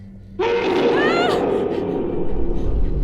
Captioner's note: Jo gasps; howling